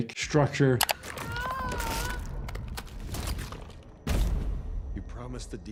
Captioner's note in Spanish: crujido de extremidades